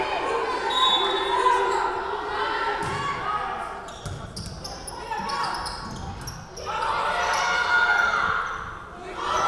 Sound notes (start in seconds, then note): 0.6 whistle blowing